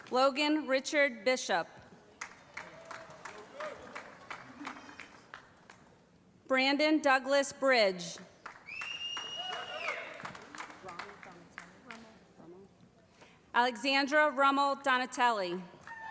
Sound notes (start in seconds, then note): 0.0 applause; 2.1 applause; 8.6 whistling; 10.1 applause